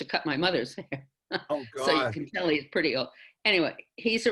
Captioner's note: laughs